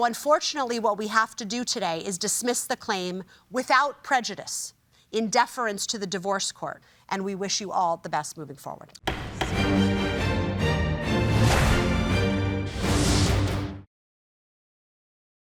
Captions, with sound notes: Unfortunately what we have to do today is dismiss the claim without prejudice in deference to the divorce court. We wish you all the best moving forward. (gavel bangs) (dramatic music)